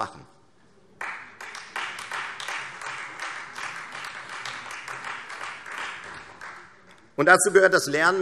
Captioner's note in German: Beifall Freie Demokraten